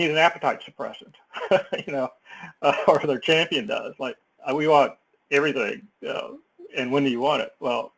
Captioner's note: laugh